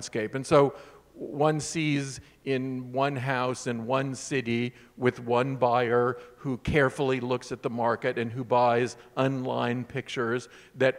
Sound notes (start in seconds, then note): none